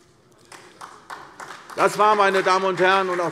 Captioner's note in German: Beifall